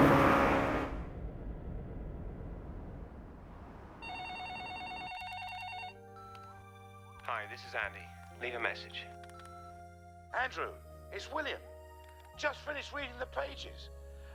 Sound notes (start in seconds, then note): 4.0 phone ringing